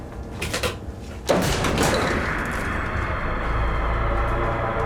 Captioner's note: floor cracks